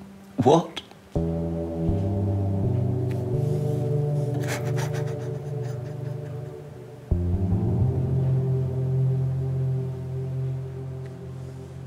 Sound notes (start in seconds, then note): 4.3 Jonathan crying